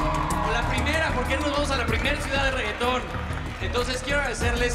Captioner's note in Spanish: Gritos